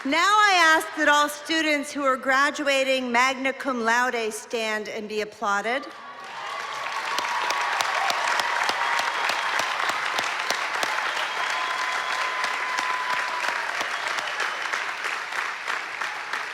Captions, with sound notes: Now I ask that all students who are graduating magma cum laude and be applauded. [APPLAUSE]